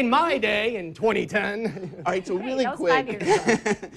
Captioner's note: laughs